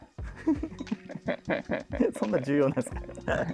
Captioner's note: laughing